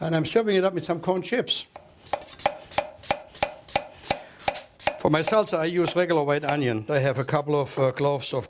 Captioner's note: chopping